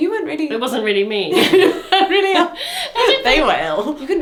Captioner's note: pair laughs